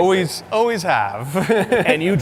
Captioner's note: laughs